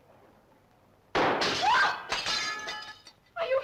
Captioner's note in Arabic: صوت طلق ناري; سارة تصرخ